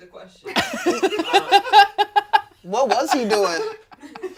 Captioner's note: everyone laughs